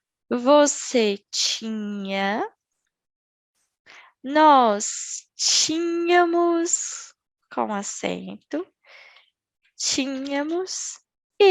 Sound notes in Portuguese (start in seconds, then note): 6.8 com acento